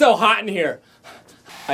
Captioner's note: panting